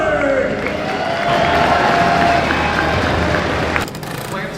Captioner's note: crowd cheers